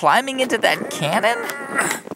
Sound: grunting, effort

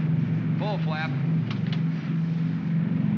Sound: aircraft rumbles; switches click; aircraft rumbles

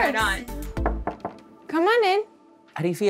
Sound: knocking

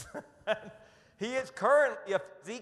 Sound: laughs

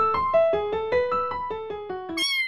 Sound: meow

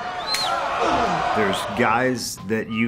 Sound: claps hands

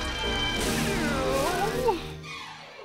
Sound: sighs

